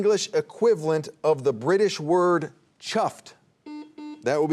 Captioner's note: buzzer buzzing